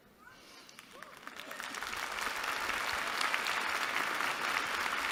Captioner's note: applause